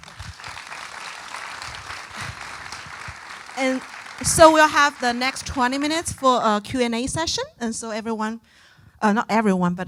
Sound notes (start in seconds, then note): 0.0 audience applauding